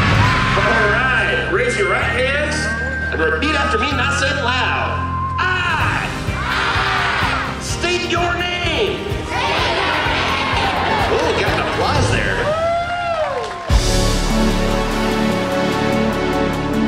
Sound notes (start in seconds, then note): 5.0 cheering; 13.1 cheering; 13.6 opening title music